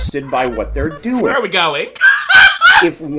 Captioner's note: laughs